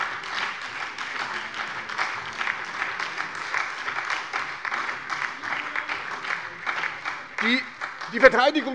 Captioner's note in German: Beifall bei der SPD und der LINKEN - Zuruf von der SPD: So ist es!